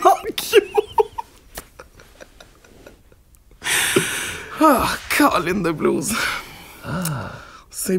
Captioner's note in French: éclat de rire; rires